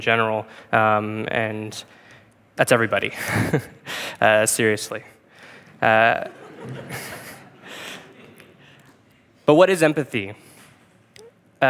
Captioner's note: laughing